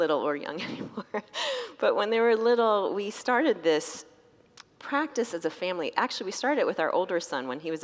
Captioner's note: laughs